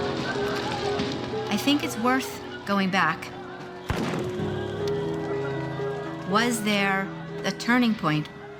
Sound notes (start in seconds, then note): 3.8 gunfire